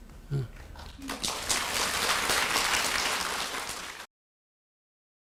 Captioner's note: audience applause